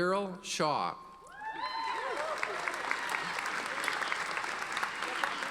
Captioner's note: audience applauding